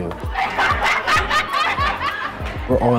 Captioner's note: laughter